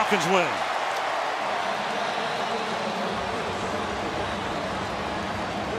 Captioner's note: cheering